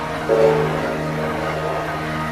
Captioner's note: 3rd Gen K5LA horn blows